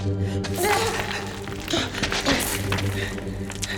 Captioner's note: grunting